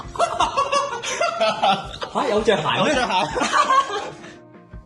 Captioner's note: laughter